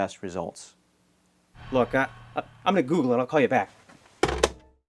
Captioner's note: slams phone